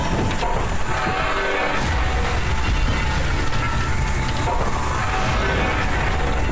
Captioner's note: metal crunching; soft intense music